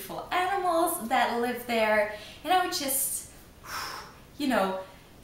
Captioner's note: sighhh